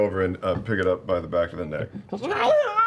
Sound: squeals

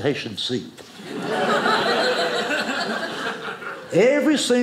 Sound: audience laughing

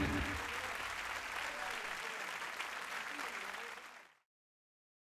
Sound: cheers and applause

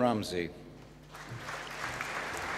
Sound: applause

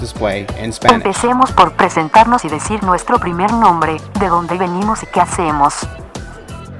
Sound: speaking in foreign language

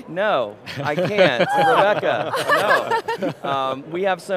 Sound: all laughing

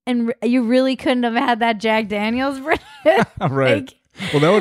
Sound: laughs

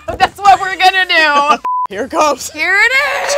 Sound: laughs

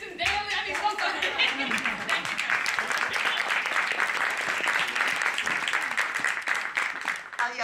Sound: laugh; applause

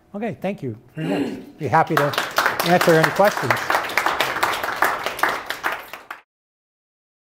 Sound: applause

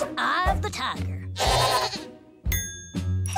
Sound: bleating

